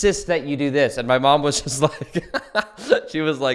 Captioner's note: laughs